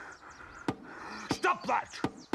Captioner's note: breathing heavily